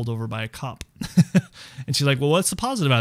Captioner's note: laughing